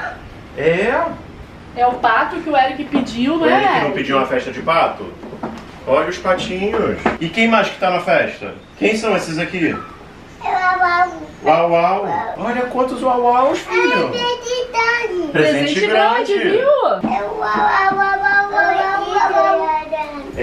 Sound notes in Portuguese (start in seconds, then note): 14.4 balbuciando